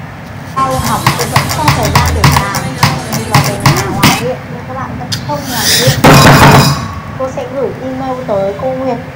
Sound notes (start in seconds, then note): 5.4 inhale; 6.0 omg another desk slam